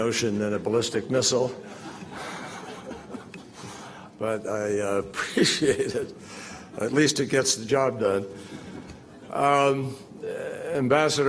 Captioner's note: laughter